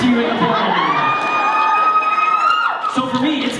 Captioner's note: cheering